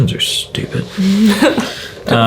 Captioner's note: chuckles